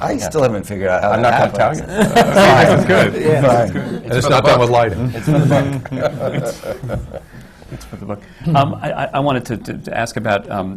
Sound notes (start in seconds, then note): 5.2 laughter